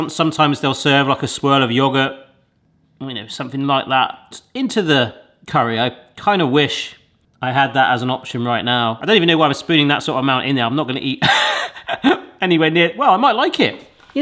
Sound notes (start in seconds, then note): 11.2 laughs